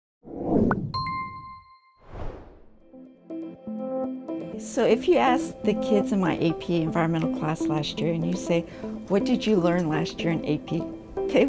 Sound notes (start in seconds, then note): 0.3 logo whooshing; 0.9 logo tings; 2.0 logo whooshing